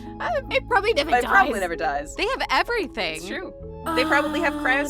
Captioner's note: laughs